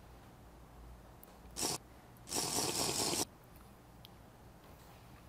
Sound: mouth sipping

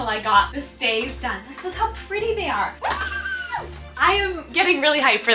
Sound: squeals

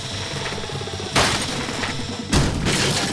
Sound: racer crashing

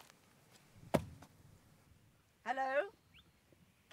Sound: thunk!

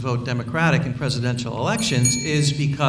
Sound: bell dings

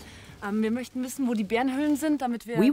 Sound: speaking in foreign language

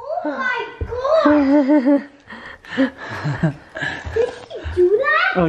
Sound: chuckling

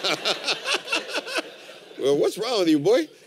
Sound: laughter

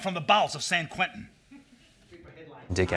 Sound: laugh

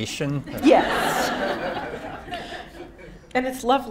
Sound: audience laughing

